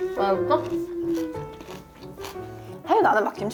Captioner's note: crunch, crunch